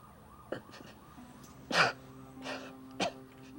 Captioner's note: coughs